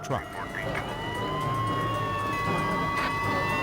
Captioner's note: sirens blare